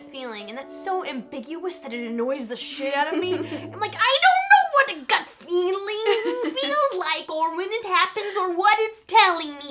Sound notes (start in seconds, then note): 2.8 laughing; 4.2 tense, high-pitched, irritated voice